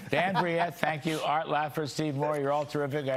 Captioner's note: laughter